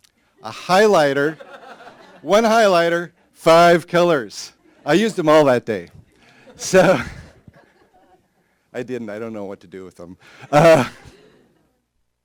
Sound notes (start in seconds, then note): 6.1 laughter